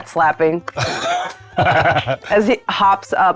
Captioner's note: claps; laughing